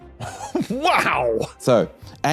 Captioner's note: cracks up